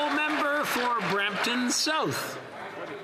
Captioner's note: applause